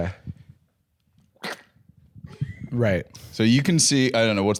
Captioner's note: slurp!